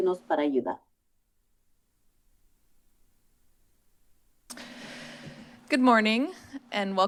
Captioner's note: silence